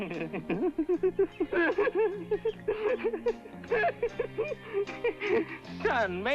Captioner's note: awkward giggling